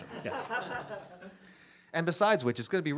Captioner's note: audience laughs